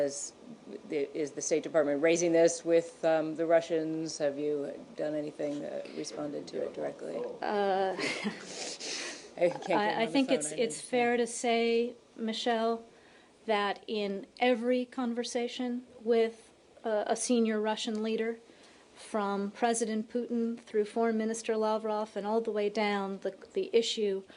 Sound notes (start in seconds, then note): 8.0 laughter